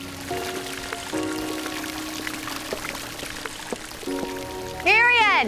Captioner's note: water gurgling, splashing